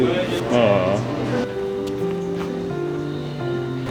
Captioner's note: exclaims